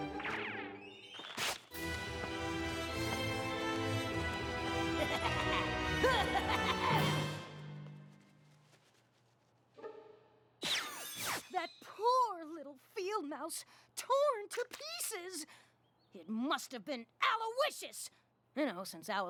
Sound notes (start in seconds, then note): 4.7 laughs maniacally